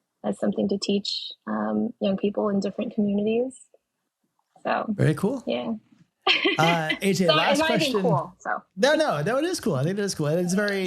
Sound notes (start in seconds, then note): 6.4 laughing